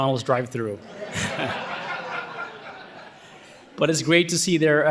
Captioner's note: audience laughing